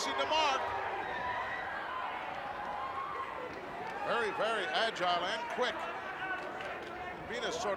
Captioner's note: applause